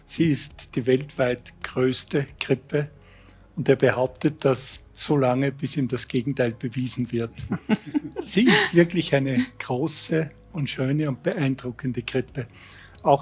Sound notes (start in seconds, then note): 7.4 laughs